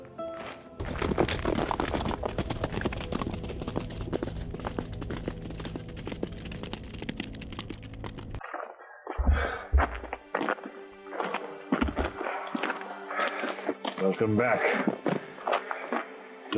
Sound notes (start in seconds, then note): 0.8 horses galloping; 9.2 footsteps